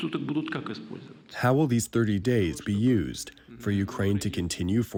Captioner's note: through translator